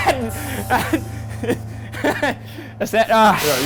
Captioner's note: laughing